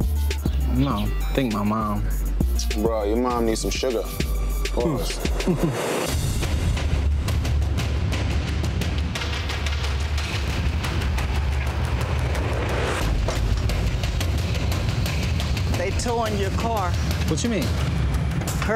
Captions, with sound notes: - I don't know. I think my mom. - Bro, your mom needs some sugar. - Of course. (intense music) (metal clanks) - They towing your car. - What you mean?